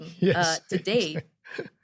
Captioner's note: laughs